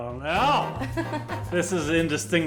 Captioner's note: laughs